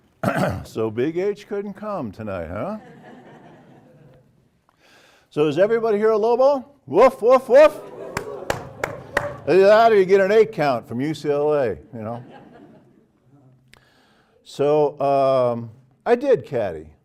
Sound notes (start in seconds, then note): 4.1 laugh; 8.1 applause; 11.9 laugh